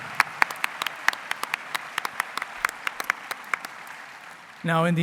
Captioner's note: applause